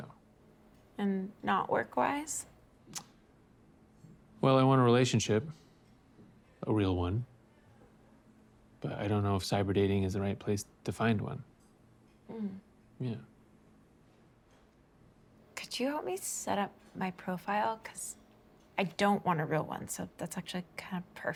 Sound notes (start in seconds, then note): 2.9 clicks tongue